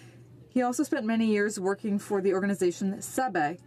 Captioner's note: speaking French